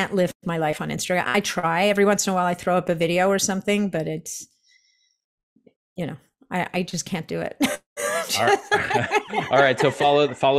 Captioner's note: laughs